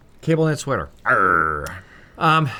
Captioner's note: pirate noises